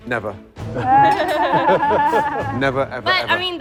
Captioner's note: laughing